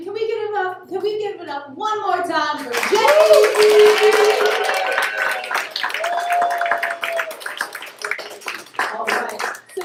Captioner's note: applause